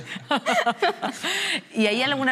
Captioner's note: she laughs